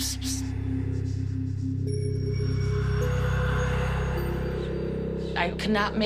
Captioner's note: whispering